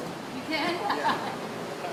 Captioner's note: laughing